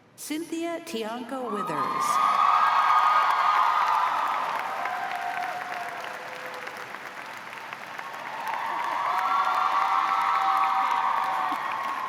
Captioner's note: cheers and applause